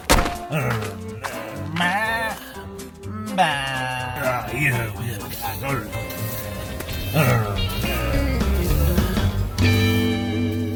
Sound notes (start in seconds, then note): 1.6 bleats; 4.2 grunts